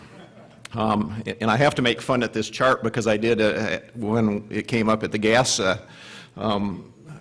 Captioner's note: chuckling